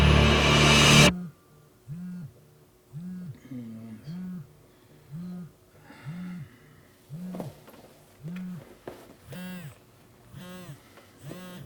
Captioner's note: phone buzzing